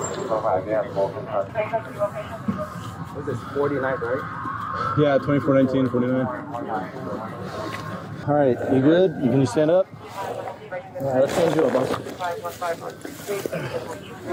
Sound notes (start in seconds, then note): 0.0 radio chatter; 9.2 radio chatter; 11.7 radio chatter